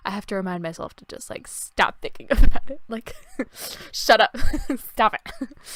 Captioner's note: laughs